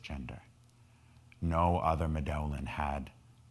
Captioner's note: speaking in foreign language